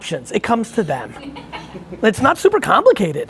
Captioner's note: laughing